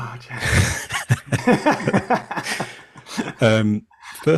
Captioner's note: laughs